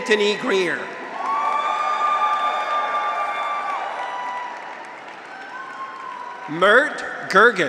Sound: graduates cheer; audience applauds

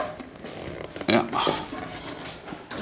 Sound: groaning

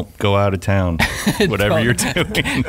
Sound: laughing

